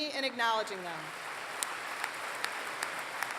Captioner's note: applause